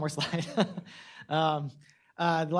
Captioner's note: chuckles